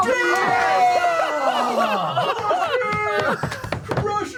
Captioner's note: laughter